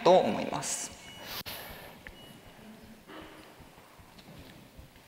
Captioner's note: silence